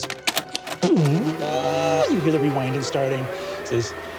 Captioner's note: mimics tape rewinding